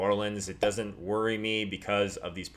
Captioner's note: pop